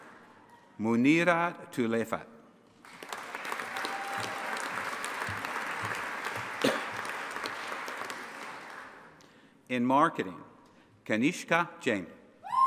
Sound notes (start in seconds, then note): 2.8 audience applauding and cheering